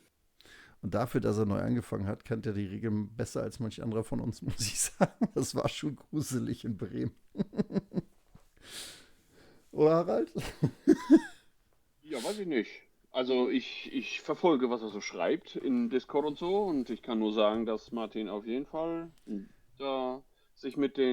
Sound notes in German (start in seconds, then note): 7.5 schnauben; 10.3 gelächter